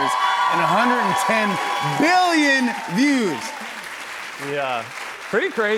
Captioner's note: cheers and applause